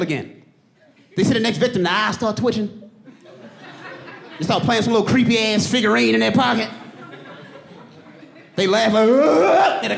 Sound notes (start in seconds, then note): 5.0 mimicking laugh; 6.5 audience laughing